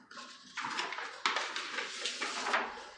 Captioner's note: papers rustling